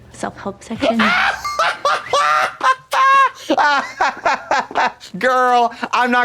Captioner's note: Trixie cock-a-doodle-doos